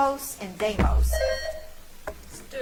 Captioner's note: bell ringing